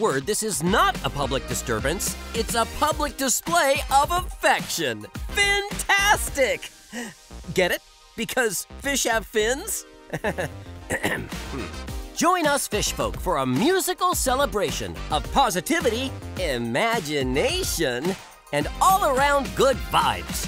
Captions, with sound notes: this is not a public disturbance. It's a public display of affection. Fintastic! Get it? Because fish have fins. [chuckling, then clearing throat] Join us, fish folk, for a musical celebration of positivity, imagination, and all-around good vibes.